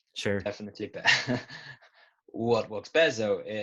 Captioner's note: laughs